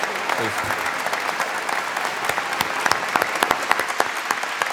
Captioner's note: applause